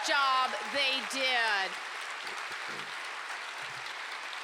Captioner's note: applause